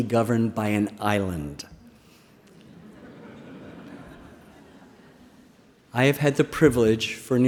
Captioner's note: laughter